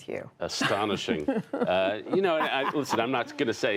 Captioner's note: laughter